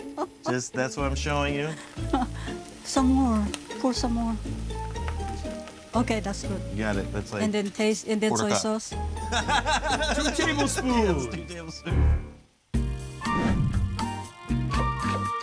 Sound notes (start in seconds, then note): 0.0 laughs; 9.2 laughing; 12.6 bright music